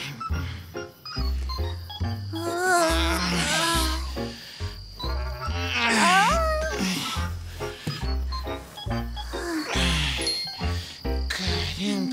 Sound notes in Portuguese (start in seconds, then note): 2.1 resmungos